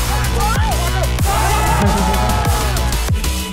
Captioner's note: cheering and celebrations